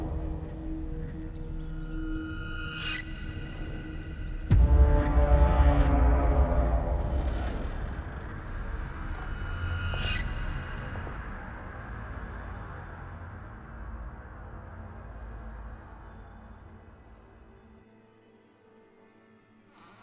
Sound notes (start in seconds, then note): 0.0 soft ominous music; 0.3 soft tense music; 7.4 door creaking; 10.3 soft tense music